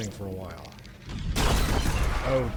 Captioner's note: gunshots